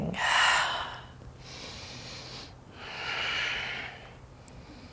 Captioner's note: inhales and exhales